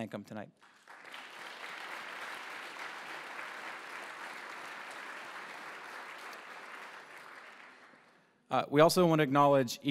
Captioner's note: applause